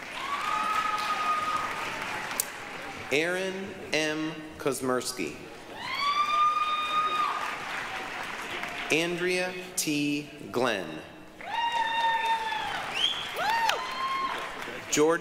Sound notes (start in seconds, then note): 0.0 applause, cheering; 5.6 applause, cheering; 11.3 applause, cheering